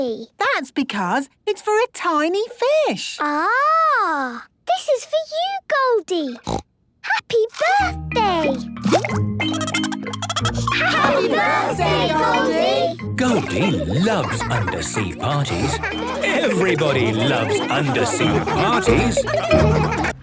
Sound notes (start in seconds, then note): 6.4 snorting; 9.4 Goldie giggling; 19.2 laughter